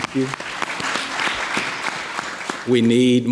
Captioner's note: audience clapping